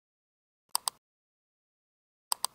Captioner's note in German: Klicken